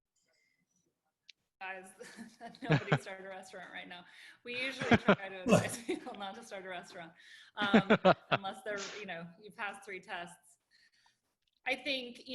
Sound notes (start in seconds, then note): 2.0 laughter